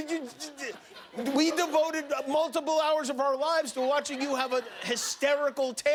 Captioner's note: laughter